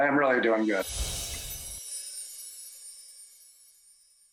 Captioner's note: chimes ringing